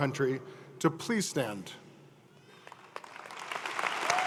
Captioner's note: applause